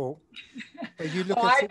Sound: laughing

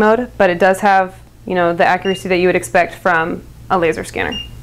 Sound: beeps

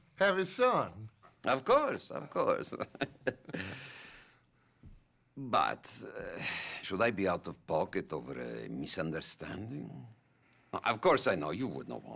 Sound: laughs

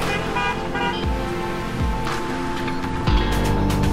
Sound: horns honk

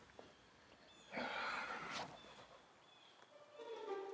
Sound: birds chirping; gentle upbeat music

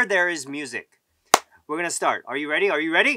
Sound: claps

